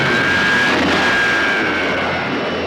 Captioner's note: zooming